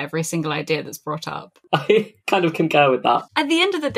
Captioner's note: laughs